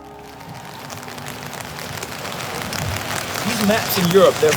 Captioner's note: rain falling